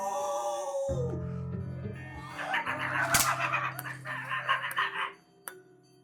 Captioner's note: Barry makes yelping noise; tense music